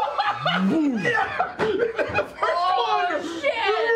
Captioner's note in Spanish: riendo